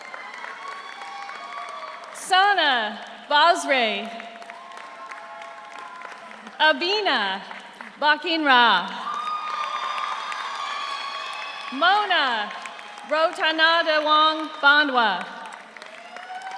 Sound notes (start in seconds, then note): 0.0 audience cheers; 0.0 audience applauds; 3.9 audience applauds; 4.4 audience cheers; 8.6 audience applauds; 8.9 audience cheers